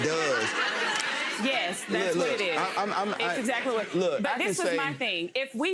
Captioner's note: audience laughs